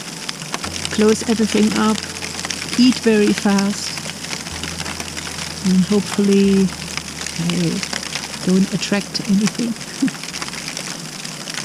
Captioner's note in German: lacht